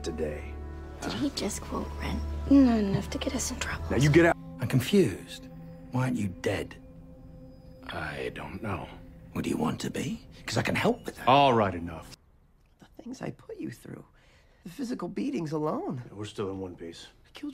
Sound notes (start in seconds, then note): none